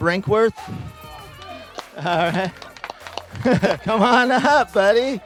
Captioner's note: people applauding